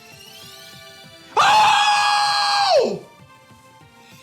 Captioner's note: screams